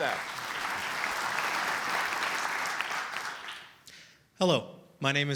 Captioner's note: applause